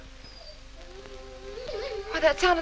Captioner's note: dog whimpering